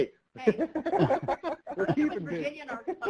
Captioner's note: laughing